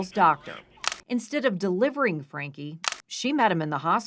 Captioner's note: camera shutter clicks